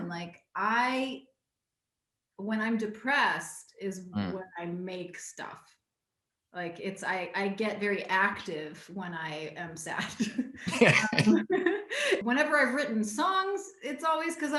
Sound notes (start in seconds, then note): 10.2 both laughing